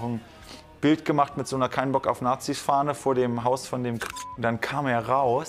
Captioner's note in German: Piepton